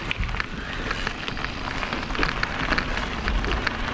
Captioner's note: crackling